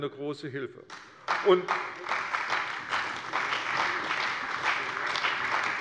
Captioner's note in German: Beifall bei der CDU und dem BÜNDNIS 90/DIE GRÜNEN